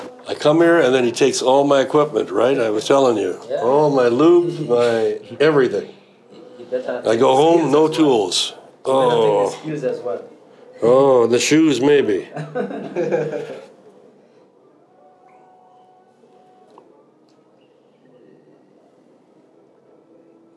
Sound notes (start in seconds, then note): 17.1 all laugh